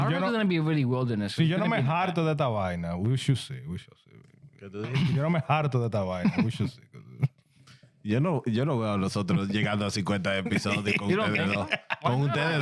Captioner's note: speaking In Foreign Language